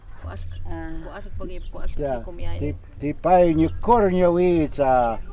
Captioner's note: speaking in foreign language